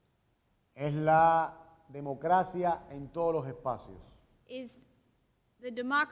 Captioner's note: speaking in Spanish